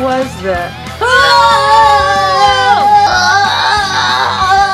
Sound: screaming; moaning

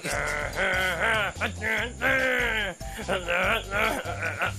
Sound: junkie humming

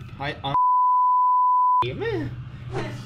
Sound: bip

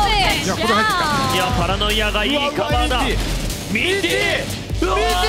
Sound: foreign language

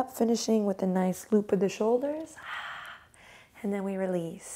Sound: quickly exhales

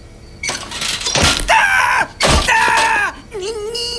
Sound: man groans; metal clunking; man yells; man groaning

